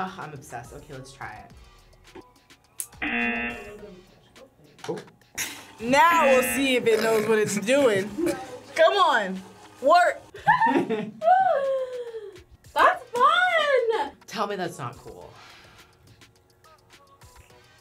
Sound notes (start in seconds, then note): 3.0 buzzer; 10.3 both laugh